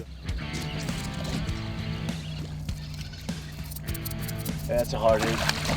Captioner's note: fishing reel squealing